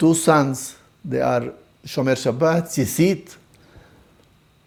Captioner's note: Hebrew